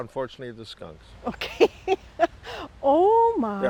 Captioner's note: laughs